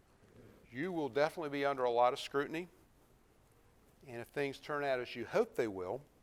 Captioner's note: none